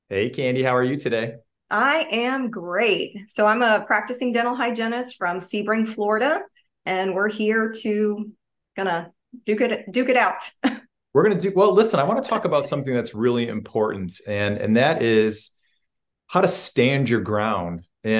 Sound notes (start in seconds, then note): 10.6 laughs